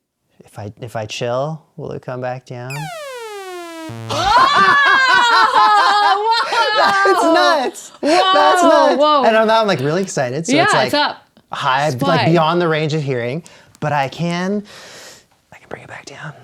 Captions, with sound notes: - If I chill, will it come back down? (synth tone) (laughing) - Wow! - That's nuts, yep, that's nuts. And I'm like really excited. - Yeah, what's up? - High beyond the range of hearing, but I can bring it back down.